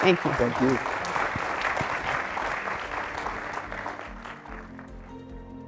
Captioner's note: applause